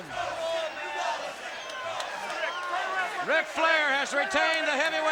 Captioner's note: crowd chatter